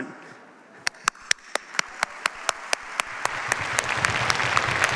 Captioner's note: applause